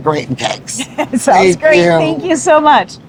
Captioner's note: laughs